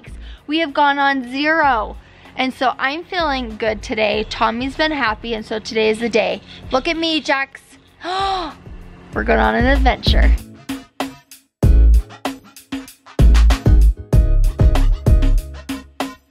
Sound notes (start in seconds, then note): 8.6 gasps; 10.7 upbeat music